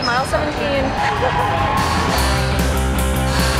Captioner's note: crowd cheering